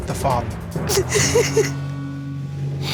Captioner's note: sobbing